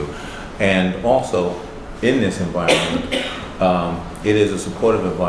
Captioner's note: coughs